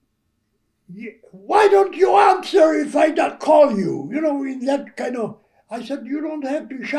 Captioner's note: loud voice